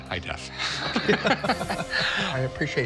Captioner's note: both laugh